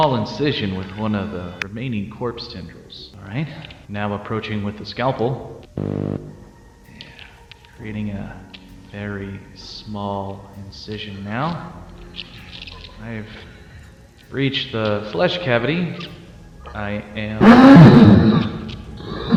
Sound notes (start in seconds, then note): 5.6 static Cut; 17.4 screams